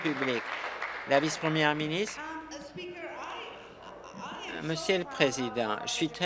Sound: applause

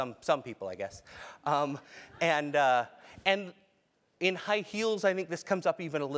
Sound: laugh

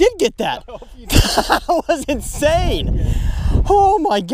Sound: laughs

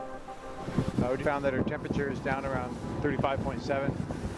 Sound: voiceover

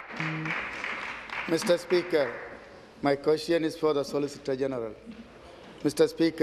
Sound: applause

